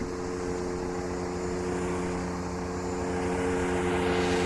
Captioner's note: motor whirring